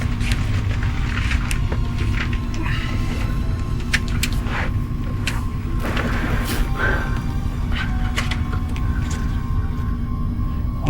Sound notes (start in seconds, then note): 2.8 Hawk grunts softly; 8.3 suspenseful music continues